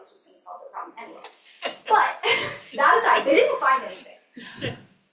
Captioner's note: laughs